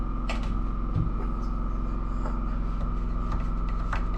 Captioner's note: engine roaring